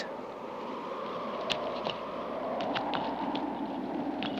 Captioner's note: wind whooshing